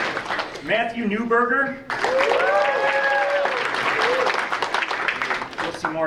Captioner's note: audience applauding; audience applauding